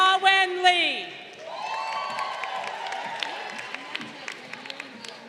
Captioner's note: crowd cheering